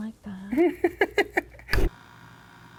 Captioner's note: laughs